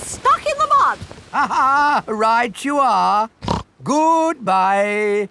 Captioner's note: laughs; snorts